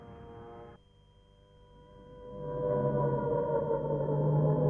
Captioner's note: sirens wailing